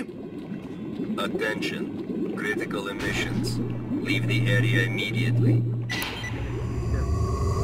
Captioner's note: recorded announcement